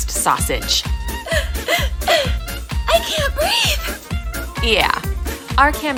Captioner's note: gasp gasp gasp I can't breathe!